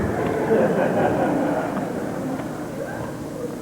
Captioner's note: laughter